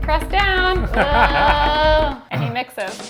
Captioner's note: laughs; cymbal crashes